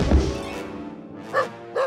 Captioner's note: barking